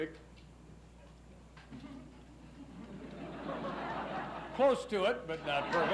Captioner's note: laughs